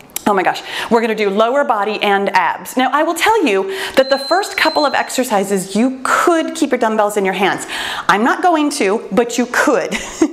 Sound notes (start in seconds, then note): 0.0 exhales; 3.9 timer beeps; 9.6 laughs